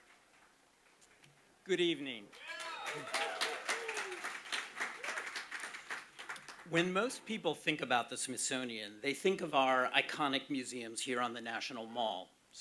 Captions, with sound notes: - Good evening. (audience applauding) When most people think about the Smithsonian, they think of our iconic museums here on the National Mall.